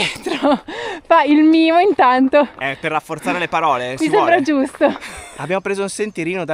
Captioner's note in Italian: risate